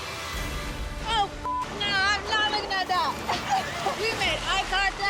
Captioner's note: beep